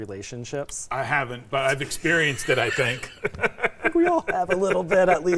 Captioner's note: laughing